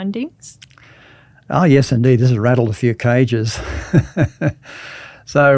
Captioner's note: laughs